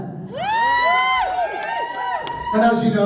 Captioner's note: cheering and whooping